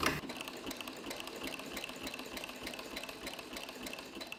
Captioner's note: sewing on sewing machine